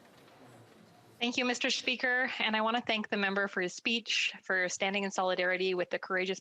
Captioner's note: speaking in French